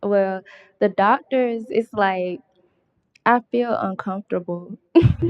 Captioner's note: laughter